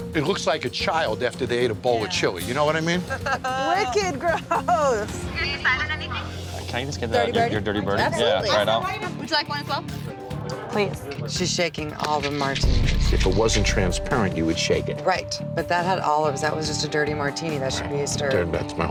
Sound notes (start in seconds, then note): 3.1 all laugh